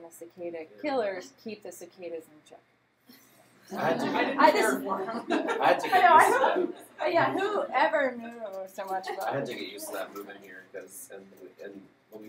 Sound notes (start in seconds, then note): 3.5 laughter